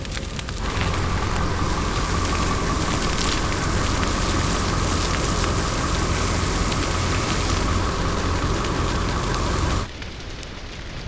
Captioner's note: sound of engine idling, crackling flames, and water from hose quelling fire; soft crackling fire